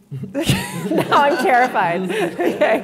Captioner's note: laughing